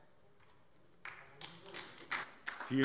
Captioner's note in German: Beifall DIE LINKE